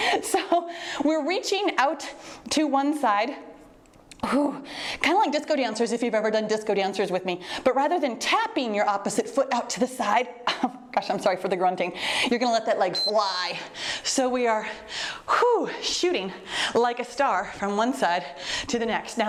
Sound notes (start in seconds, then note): 4.3 exhales deeply; 12.9 timer beeps; 15.0 exhales deeply